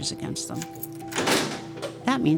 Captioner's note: lock clicks